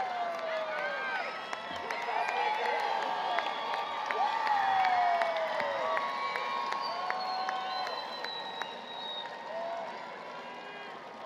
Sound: applause, Cheering

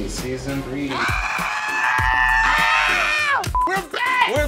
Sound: men yelling

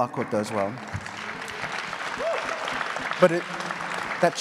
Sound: applause

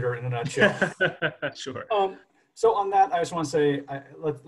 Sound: laughs

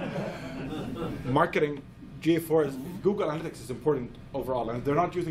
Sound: laughs

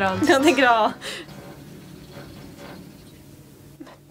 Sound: farting noise from constructors

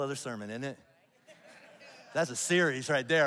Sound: congregation laughs

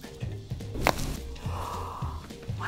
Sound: bones cracking

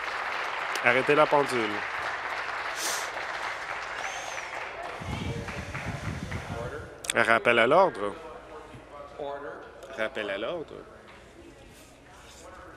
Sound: applause

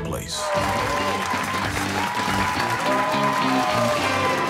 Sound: cheers and applause

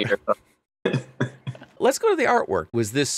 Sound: laughing

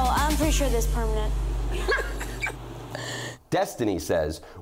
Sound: laughs

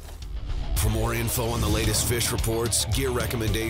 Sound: voiceover

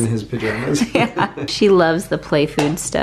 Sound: laughs

